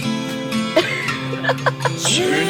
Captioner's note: laughs